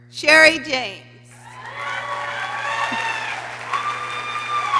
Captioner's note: people cheering